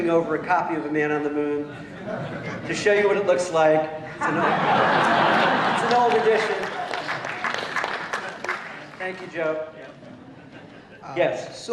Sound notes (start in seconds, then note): 4.0 laughter